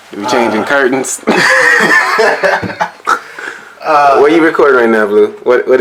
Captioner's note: laughs